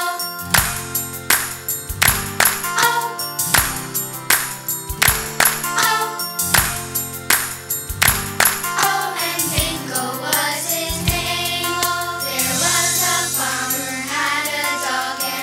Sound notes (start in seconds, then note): 2.0 clap; 4.2 clap; 7.9 clap